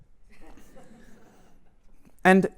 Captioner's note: laughter